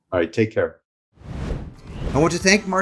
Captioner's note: screen whooshing